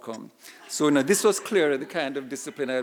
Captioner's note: audience laughing